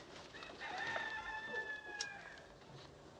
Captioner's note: cockerel crowing